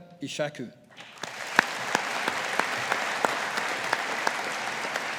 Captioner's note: audience applauding